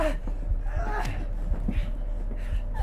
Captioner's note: Sue gasping; kick thudding